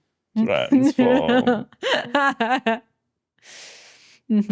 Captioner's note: laughing